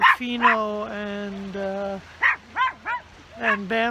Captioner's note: barking